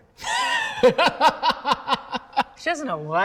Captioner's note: laughs